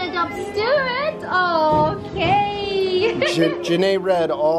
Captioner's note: laughs